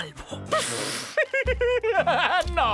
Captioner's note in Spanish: Carcajadas